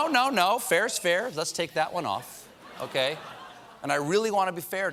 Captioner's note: audience reacts